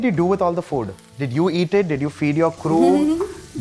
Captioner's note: giggles